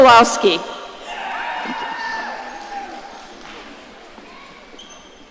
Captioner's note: audience cheering